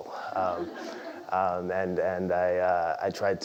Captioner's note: laugh